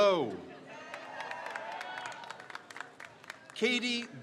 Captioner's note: crowd cheers